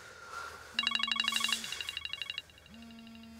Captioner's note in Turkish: Telefon çalıyor